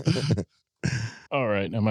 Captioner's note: laughter